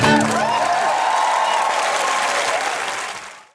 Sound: audience applauding

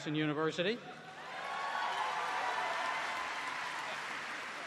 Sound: applause

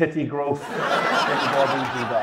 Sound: audience laughs

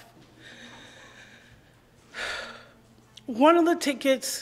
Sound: sighs shakily

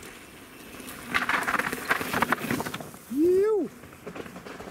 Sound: bicycle squeaking

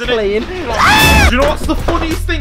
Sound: manly Scream

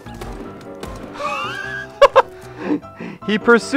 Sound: wheezing laughter

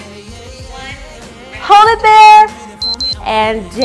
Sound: beeps

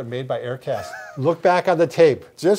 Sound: chuckles

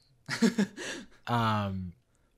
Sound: laughs

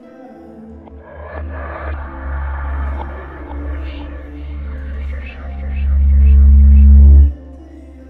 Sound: creepy voices

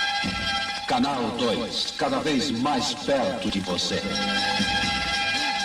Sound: man speaking portuguese

